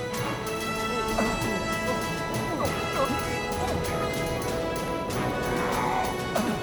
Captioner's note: music intensifies; sandstorm blows loudly